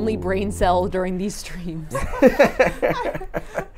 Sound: laughs

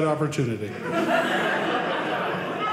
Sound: audience laughing

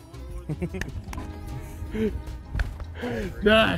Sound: laughter

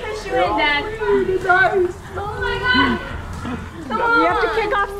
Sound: whining

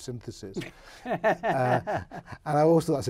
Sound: laughs

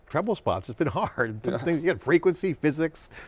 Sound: laughs

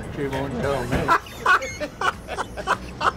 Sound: laughs

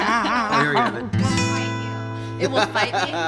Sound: laughter

